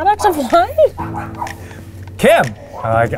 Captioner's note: Kimbop barking